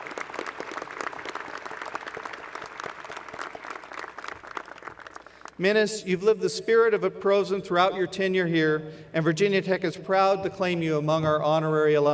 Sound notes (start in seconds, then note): 0.0 applause